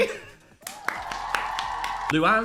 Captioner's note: Dan laughing; Phil clapping